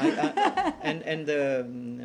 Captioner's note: laughter